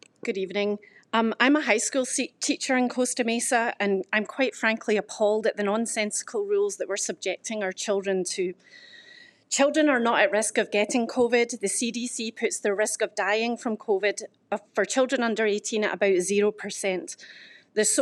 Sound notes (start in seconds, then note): none